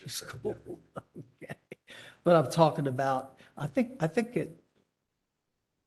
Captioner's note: laughter